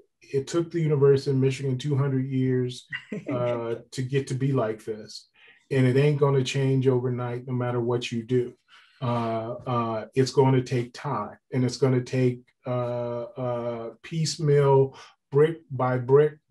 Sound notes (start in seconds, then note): 2.9 laughs